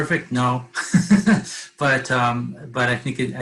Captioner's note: laughs